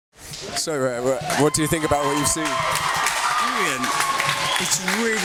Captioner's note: people applaud in background